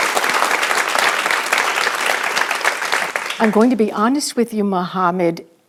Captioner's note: audience clapping